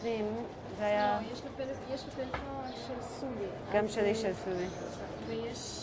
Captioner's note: background talk